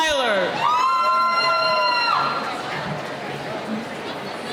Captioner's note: cheering